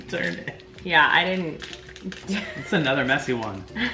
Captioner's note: laughs